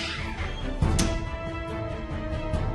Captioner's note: door closes